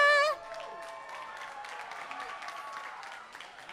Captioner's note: applause